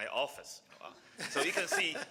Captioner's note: laughing